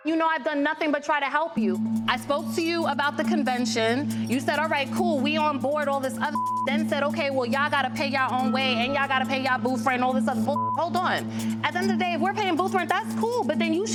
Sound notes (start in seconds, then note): 6.5 beeps; 10.5 beeps